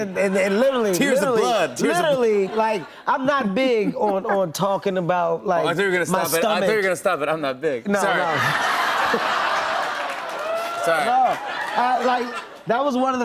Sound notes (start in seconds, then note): 8.0 laughter, audience "Ohhs"